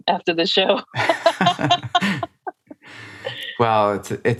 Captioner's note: laughter